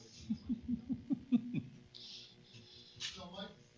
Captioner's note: chuckles